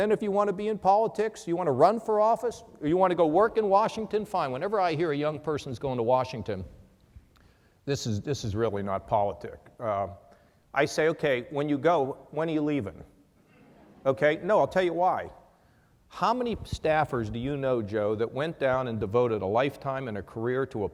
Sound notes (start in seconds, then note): 13.5 laughter